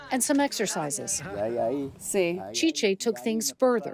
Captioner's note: speaking in foreign language